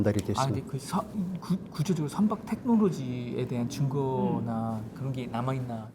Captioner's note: speaking in Korean